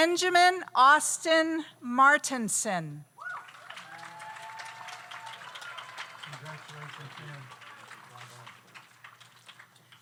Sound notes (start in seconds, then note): 3.2 audience cheers; 3.2 audience applauds